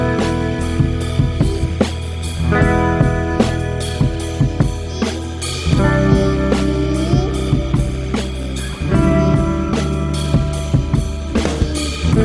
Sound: baby talk

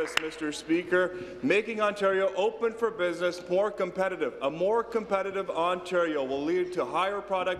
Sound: applause

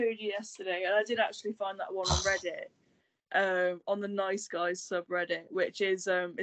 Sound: sighs

